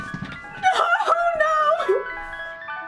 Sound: whimpering

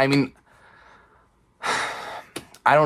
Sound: exhales

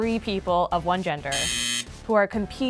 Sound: buzzes

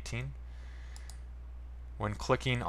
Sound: mouse click

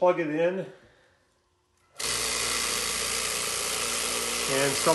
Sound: motor buzzing

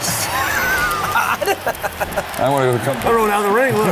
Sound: laughs

